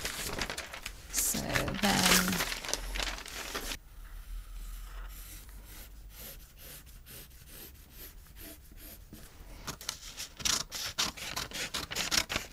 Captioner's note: rustling and pencil noises